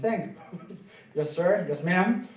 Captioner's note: laughing